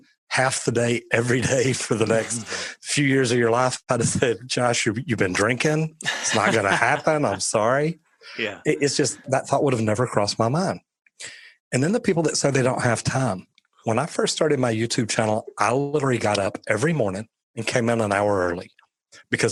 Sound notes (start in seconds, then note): 6.0 laughing